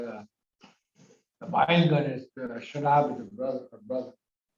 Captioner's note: foreign language